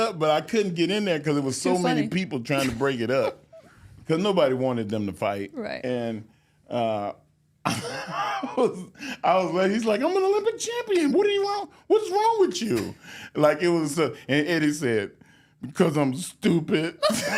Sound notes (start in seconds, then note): 7.6 Mark laughing